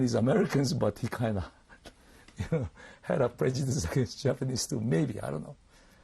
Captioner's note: laughs